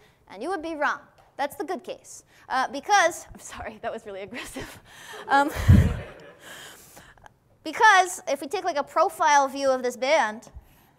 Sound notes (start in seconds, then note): 5.2 laughs; 5.6 class laughs